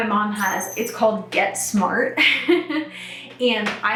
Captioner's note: laughs